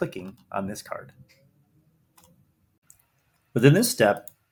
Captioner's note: mouse clicks